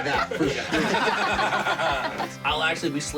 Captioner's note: laughter